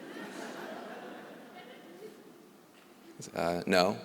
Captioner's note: laughter